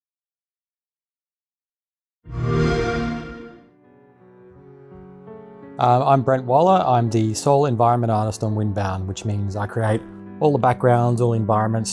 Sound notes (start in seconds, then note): 2.3 xbox sound